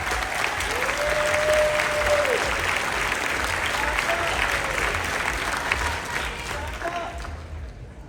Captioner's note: laughter, Cheering